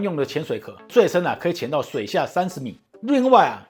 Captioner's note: mispronunciation